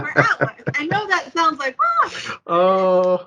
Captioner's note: laughs; laughs